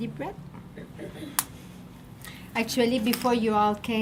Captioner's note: needle popping